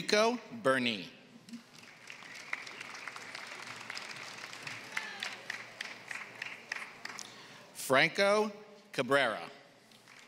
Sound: applause; applause

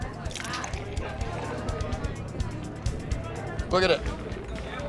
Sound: alcohol trickling

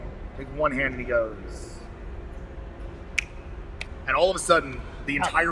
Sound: snaps

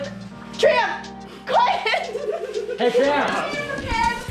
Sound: laughing

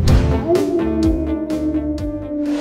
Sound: coyote Howl

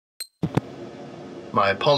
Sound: microphone turning on

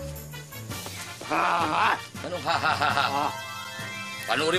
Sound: Junkie grunting

